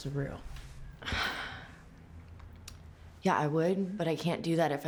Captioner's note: sighs